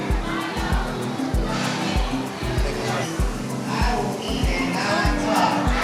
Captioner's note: students speaking amongst themselves; soft music